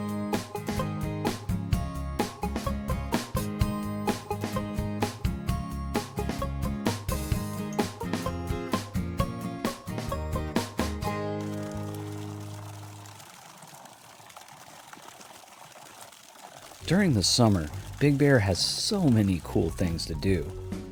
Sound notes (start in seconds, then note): 12.1 water trickling